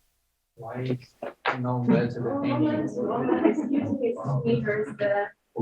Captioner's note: crowd talking over each other